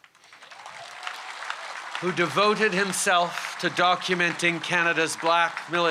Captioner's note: applause